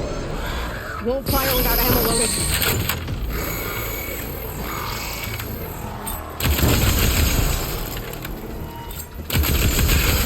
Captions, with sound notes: - It won't fire without ammo loaded. (machine droning) (gun firing)